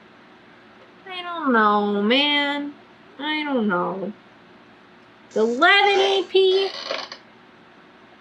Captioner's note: groans